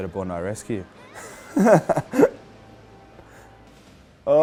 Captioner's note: laughs